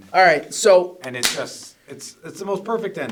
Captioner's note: claps